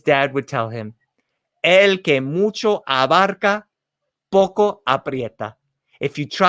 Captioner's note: spoken in foreign language